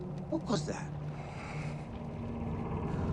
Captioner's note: Sinclair exhaling; ship creaking